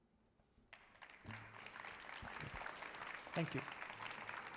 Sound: audience applauding

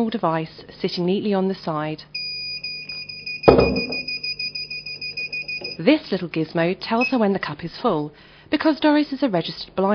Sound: beeping

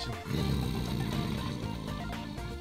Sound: snoring

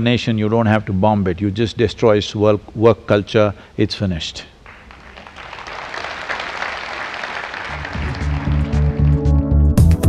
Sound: applause

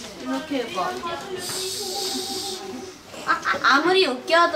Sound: spraying sound

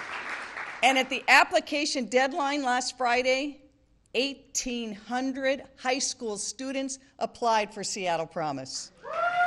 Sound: applause

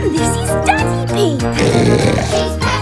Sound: oink; singing

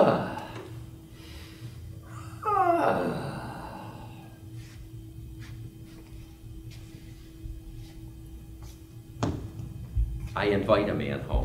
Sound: moaning, panting

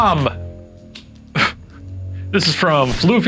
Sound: laughing

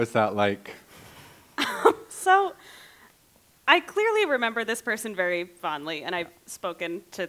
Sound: laughs

